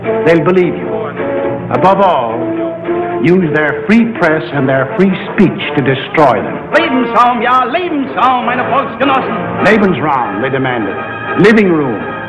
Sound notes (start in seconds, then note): 7.1 man speaking German; 12.1 intense, dramatic music